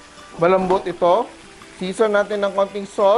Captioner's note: sizzle